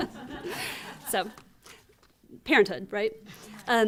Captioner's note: laughter